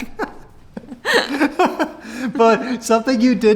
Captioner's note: laughing